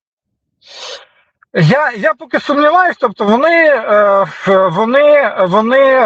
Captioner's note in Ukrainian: сопіння